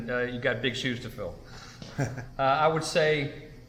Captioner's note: laughs